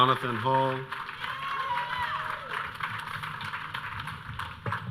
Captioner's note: audience cheering